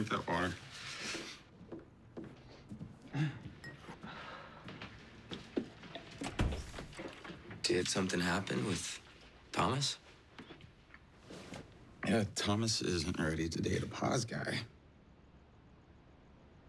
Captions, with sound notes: Can I drink that water? [ Door closes ] Did something happen with Thomas? Yeah, Thomas isn't ready to date a poz guy.